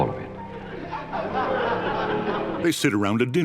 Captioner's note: laughing